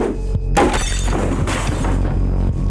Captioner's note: glass shattering; deep tense music